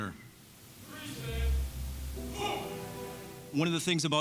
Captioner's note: grunting